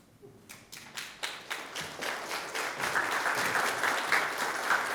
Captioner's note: audience clapping